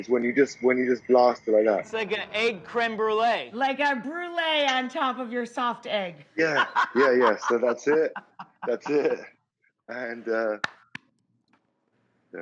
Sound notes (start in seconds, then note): 6.3 laughs; 10.5 claps